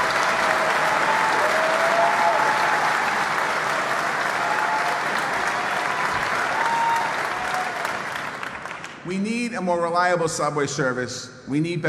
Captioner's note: applause